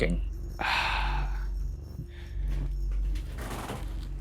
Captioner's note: sighs